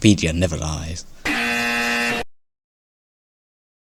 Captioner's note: incorrect Buzzer Noise